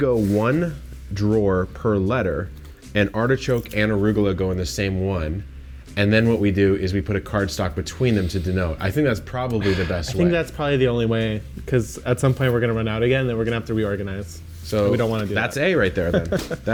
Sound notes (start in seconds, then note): 9.6 sighs; 16.0 laughs